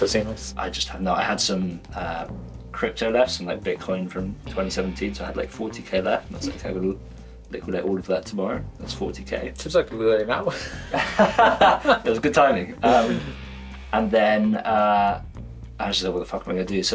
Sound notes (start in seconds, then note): 10.5 laughs